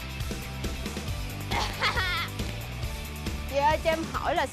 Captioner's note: laughing